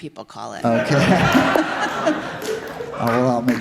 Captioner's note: he laughs with the audience